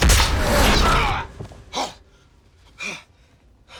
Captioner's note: screams; breathing heavily